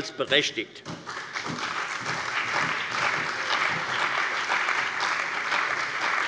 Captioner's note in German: Allgemeiner Beifall